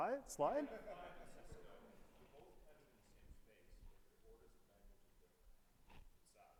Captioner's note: audience member indistinctly chattering